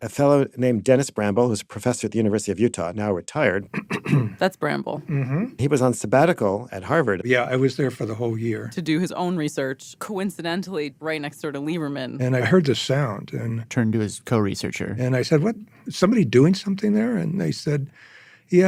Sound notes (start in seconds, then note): 3.6 clears throat